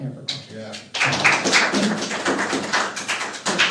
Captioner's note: applause